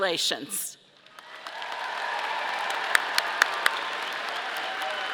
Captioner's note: audience applauding